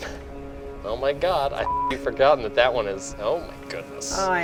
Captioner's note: beep